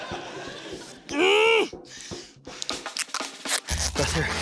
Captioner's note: laughter; grunts, pants